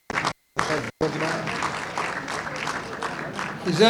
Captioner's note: audience applauding